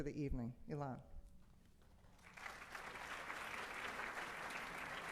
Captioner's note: audience applauds